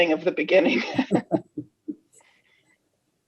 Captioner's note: laughter